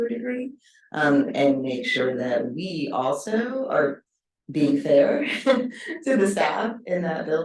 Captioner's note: chuckles